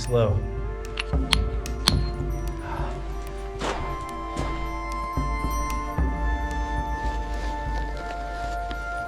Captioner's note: stone thuds